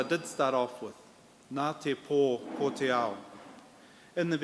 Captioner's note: in Maori